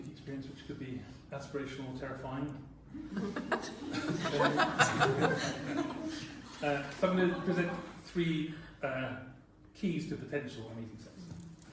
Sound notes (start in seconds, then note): 4.9 laughter